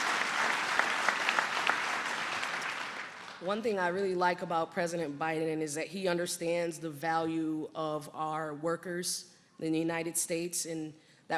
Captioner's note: applause